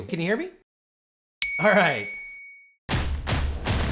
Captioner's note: bell dings; drums beat